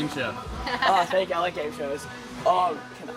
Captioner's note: laughing